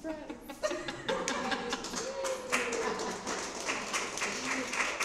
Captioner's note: laughter and applause